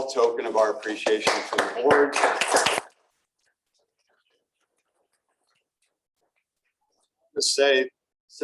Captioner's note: applause